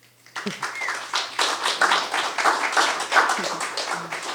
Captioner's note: attendees applauding